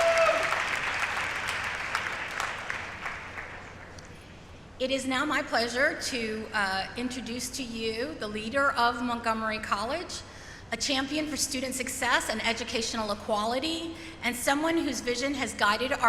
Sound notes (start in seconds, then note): 2.9 applause; 2.9 cheering